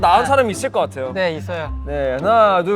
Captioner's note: confident